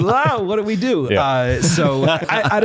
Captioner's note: laughter